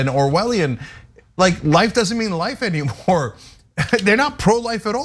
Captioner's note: laugh